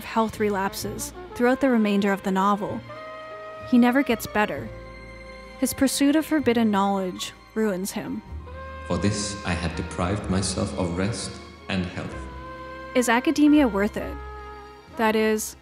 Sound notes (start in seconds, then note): 12.6 echo